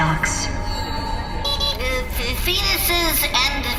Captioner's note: beeping